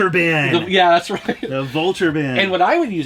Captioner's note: laughs